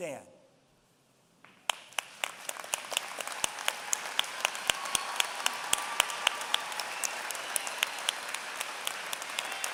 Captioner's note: applause